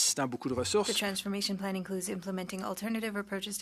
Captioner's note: speaking French